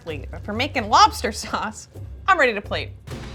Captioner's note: chuckles